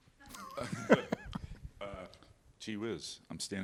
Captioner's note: laughter